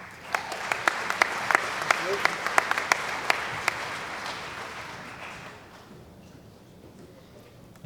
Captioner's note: applause